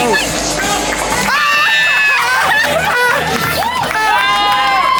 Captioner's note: screaming; group cheering and clapping